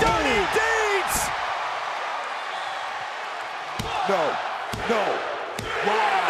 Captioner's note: applause